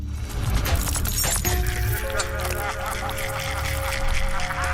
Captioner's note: glass shattering; evil laughing